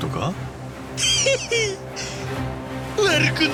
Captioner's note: giggles